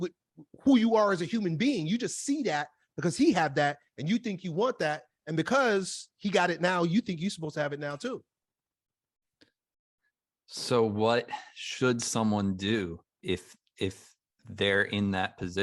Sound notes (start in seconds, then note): none